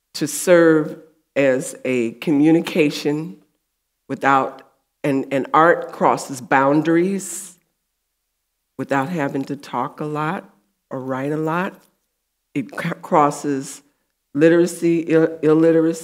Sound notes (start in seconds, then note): none